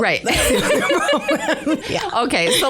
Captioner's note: laughter